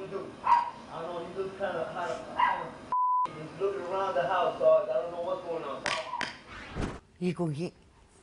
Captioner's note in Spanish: Bip